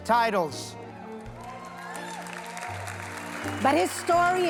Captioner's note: audience applause